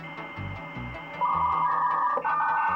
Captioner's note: modem noise